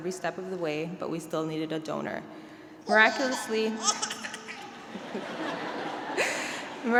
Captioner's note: baby noises